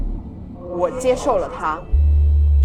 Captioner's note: Mandarin language